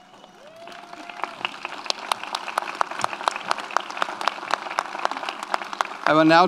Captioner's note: audience applauds; audience cheers